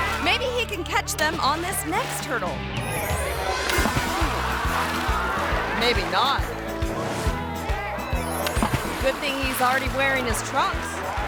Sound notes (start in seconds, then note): 3.0 playful music; 3.0 water splashes; 8.0 water splashes